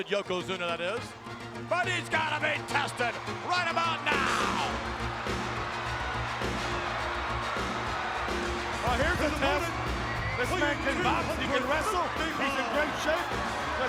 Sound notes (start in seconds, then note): 4.4 audience cheers; 4.4 upbeat music